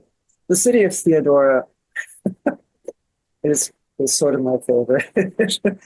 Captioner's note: laughs